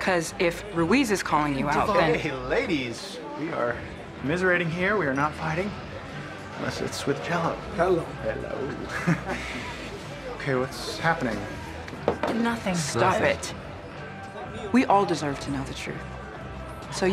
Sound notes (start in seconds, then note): 8.8 chuckles